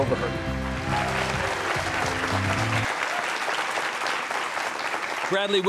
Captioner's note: audience applauding